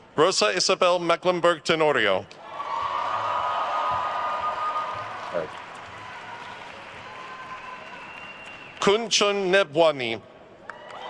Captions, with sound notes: Rosa Isabel Mecklemburg Tenorio. (attendees cheering and applauding) (attendee whistling) Kanchan Nebhwani.